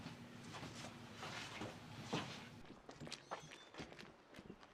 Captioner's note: footsteps shuffle